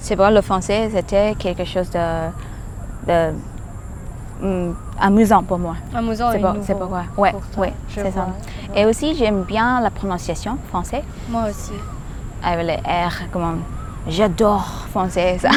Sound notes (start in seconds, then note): 6.0 agreement noises